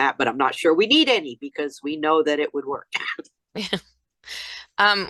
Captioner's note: laughs